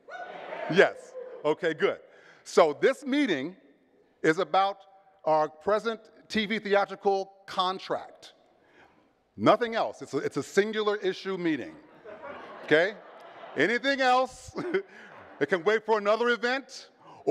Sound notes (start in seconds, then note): 11.9 audience chuckles; 14.6 chuckles